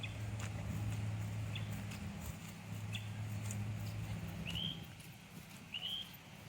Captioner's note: footsteps crunching; birds chirping